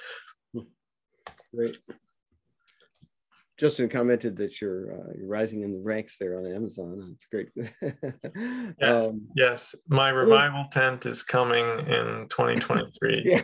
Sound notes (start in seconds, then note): 7.6 chuckles